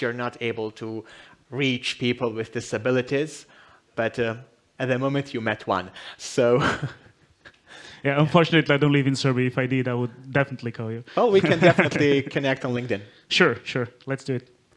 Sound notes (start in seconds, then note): 6.5 laughs; 11.2 laughs